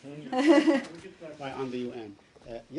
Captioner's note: laughter